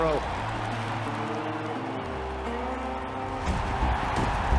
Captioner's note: crowd cheering